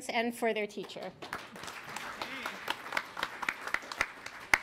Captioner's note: applause